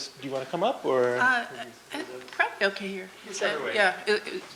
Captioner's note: voiceover